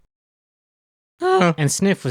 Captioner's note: Chimp noises like he's about to see Harambe